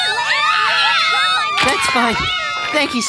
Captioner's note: girls screaming